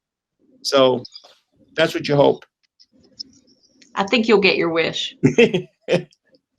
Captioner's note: laughter